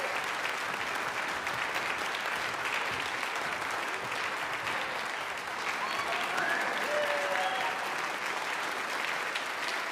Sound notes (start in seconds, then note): 5.6 audience cheers; 9.2 audience applause